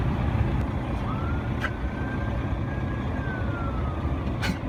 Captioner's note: sirens wailing